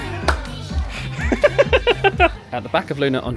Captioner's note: laughs